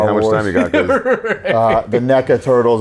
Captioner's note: laughs